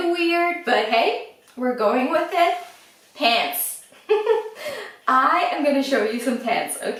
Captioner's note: laughs